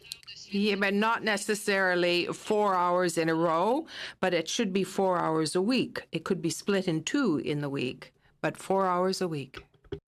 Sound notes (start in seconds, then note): 2.7 speaking FRENCH